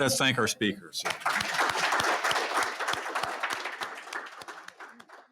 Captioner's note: applause